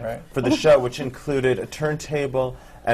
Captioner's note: groans